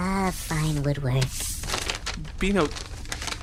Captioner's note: singsong; rustling paper